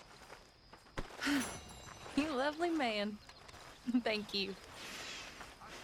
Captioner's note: laughs